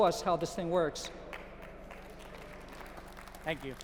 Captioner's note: applause